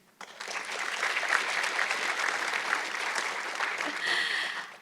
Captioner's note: audience clapping